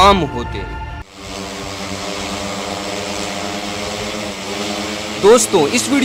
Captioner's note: drone sound